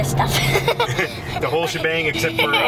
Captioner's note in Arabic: ضحك